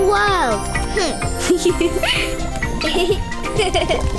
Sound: laughter

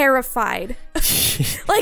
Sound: laughing

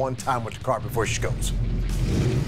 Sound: engine rumbling; tires squealing

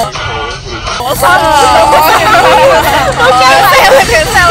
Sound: many impressed noises

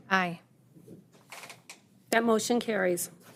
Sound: chair creaking

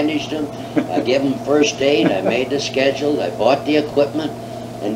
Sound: laughs

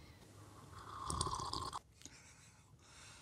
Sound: slurps

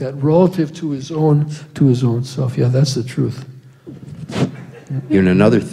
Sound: laughter

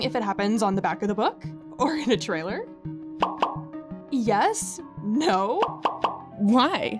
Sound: text message beeps

